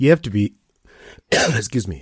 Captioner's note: cough